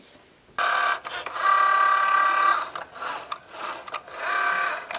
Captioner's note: machine whirring